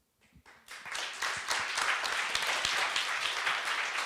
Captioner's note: group clapping